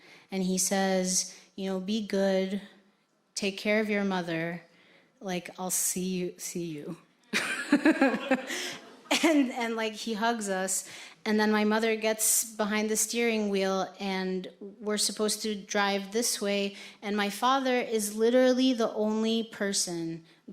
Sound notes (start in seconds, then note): 7.4 laughs; 7.4 audience laughing